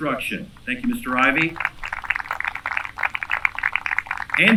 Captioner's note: applause